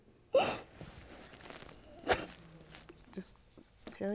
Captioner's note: crying